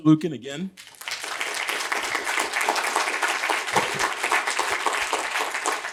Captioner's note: applause